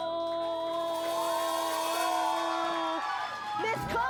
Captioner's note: applause